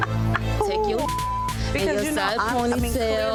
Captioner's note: beep